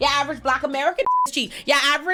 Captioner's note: beep